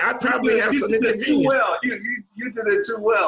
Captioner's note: voice muffling